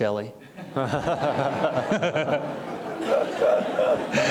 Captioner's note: audience laughing